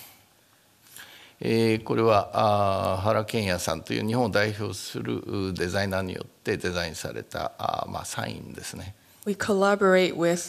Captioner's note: speaking japanese